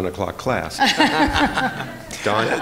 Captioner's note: laughter